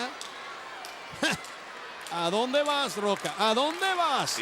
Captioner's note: laugh